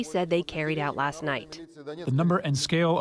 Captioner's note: through translator